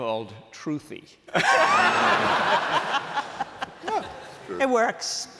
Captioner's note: laughter